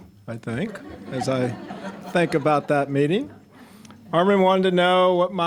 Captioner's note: audience laughing